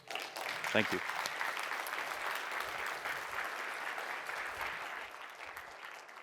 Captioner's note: applause